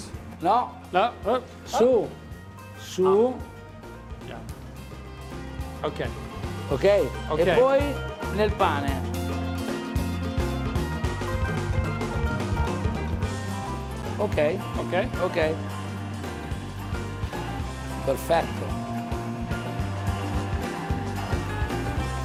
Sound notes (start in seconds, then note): 7.8 speaking in foreign language; 7.8 upbeat music; 19.0 upbeat music